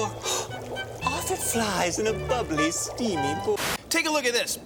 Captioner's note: gasps